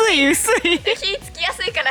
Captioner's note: laughs